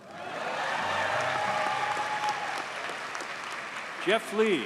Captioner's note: audience cheers and applauds